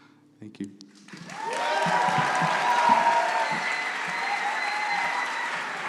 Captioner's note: cheering and applause